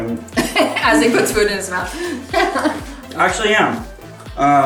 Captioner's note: laughing